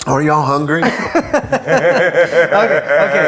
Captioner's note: laughs